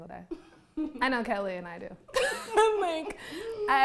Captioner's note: laughs